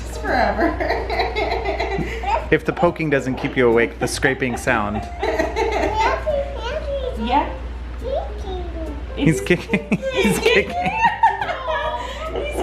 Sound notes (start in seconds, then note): 0.5 laughing; 6.2 baby talking; 9.4 laughing